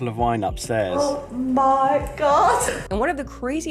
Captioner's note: laughs